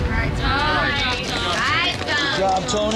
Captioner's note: crowd applauding